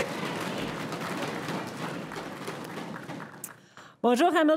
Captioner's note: crowd applauding